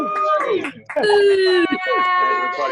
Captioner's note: students cheer